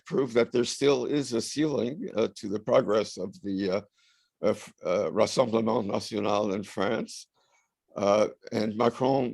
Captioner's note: french